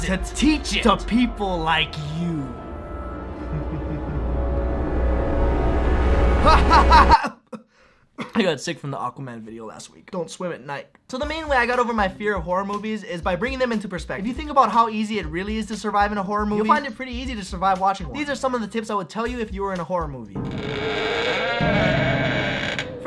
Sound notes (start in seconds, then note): 3.4 evil chuckle; 8.2 hacking; 20.4 floorboards creak